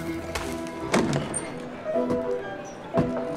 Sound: walking on sand with spurs; door opens; footsteps cross wooden floor

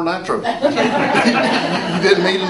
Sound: audience laughs

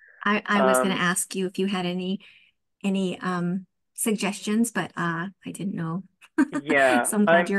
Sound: laughs

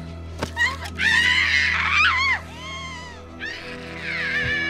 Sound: demon screaming

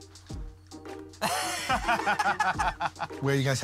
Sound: laughter

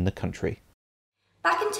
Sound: music stops

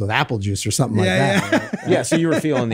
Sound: laughs

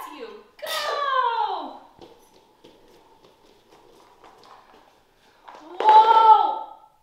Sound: sneezes

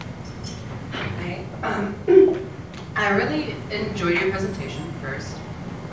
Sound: cough

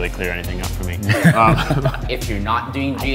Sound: laughing

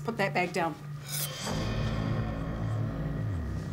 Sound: shing

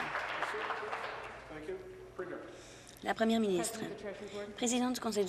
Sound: applause

